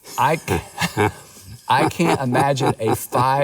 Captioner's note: laughs